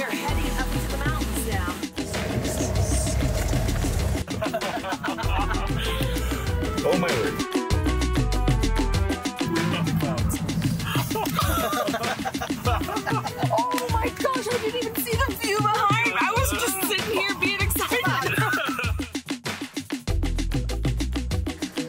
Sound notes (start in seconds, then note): 4.2 men laughing; 10.7 all laughing; 18.3 all laughing; 19.2 upbeat music